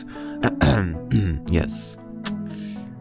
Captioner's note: cough